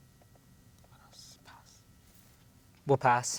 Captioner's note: whispers